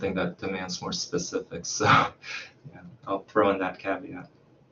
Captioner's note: chuckles